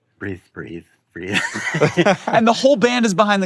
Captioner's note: laughs